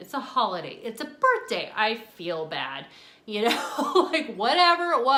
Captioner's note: laughing